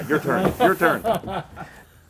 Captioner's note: laughter